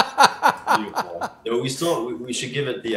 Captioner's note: laughs